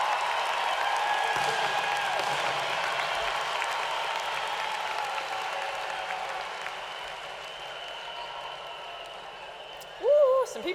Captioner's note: cheers and applause